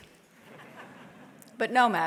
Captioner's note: audience laughs